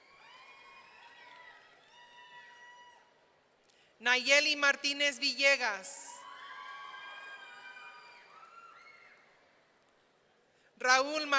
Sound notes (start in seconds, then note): 0.0 audience cheering; 6.2 audience cheering